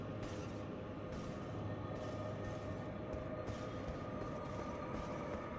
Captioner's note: none